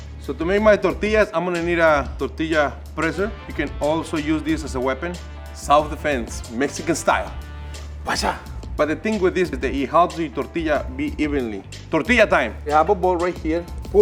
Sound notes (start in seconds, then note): 7.4 makes whooshing sound